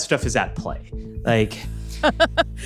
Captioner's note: laughs